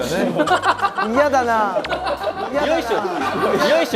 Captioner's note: hahahaha